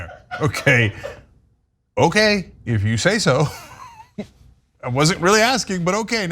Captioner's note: laugh